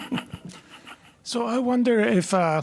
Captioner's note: laughter